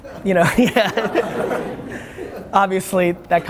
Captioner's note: laughter